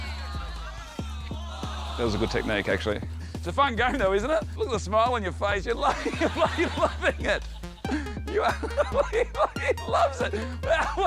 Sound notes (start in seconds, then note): 9.0 laughs